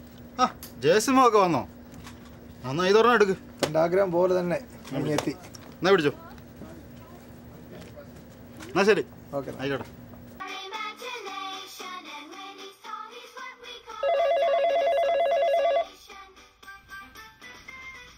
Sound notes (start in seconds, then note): 14.0 phone rings